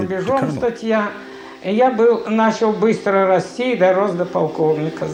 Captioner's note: Russian spoken audio